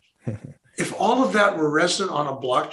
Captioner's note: chuckling